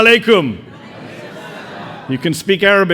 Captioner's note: audience responding